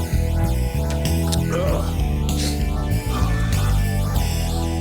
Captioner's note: groans